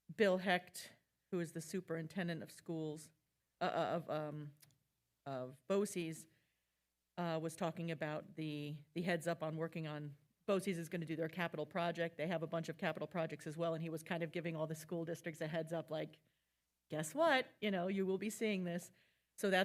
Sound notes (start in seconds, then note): none